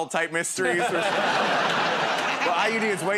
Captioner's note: laughter